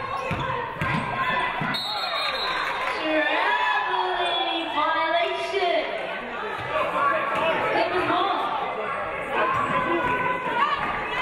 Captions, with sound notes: (referee blows whistle) Traveling violation. Suffolk ball.